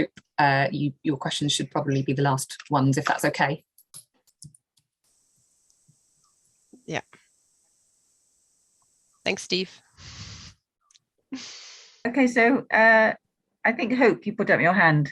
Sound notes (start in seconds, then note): 10.0 chuckles